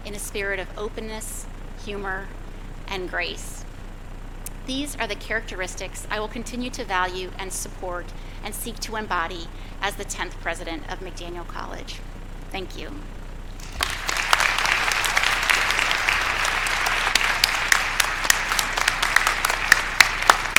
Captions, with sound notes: in a spirit of openness, humor and grace. These are the characteristics I will continue to value and support and seek to embody as the 10th president of McDaniel College. Thank you. (applause)